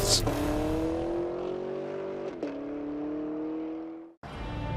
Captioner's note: car exhaust roars